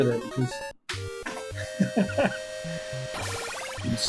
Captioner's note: chuckles